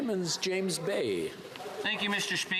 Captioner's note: speaking French